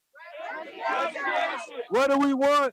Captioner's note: crowd yelling